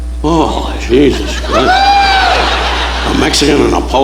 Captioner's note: audience laughing